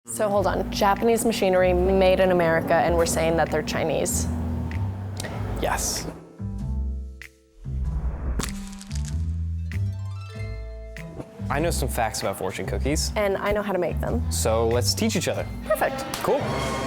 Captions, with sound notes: - So, hold on. Japanese machinery made in America, and we're saying that they're Chinese. - Yes. (shattering) I know some facts about fortune cookies. - And I know how to make them - So let's teach each other. - Perfect! - Cool.